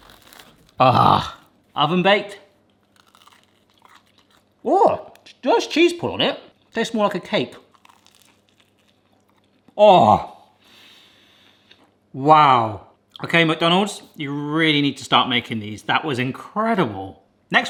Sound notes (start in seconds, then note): 0.0 McPizza crunches; 7.5 McPizza crunches